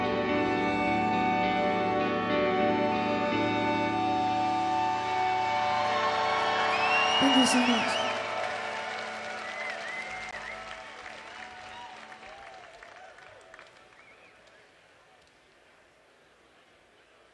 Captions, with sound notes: (audience applauding) (audience cheering) Thank you so much.